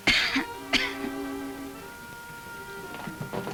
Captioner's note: Ellen coughs